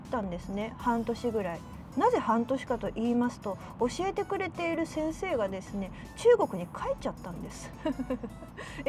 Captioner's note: awkward laugh